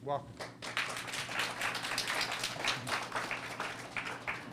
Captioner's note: audience applauds